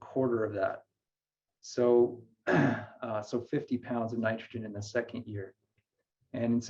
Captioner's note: clears throat